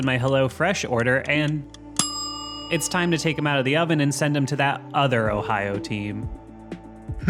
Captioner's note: ding